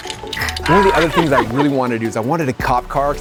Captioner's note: paint mixers rattling; hissing; yelling